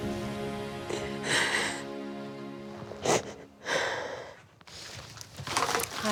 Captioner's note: sniffling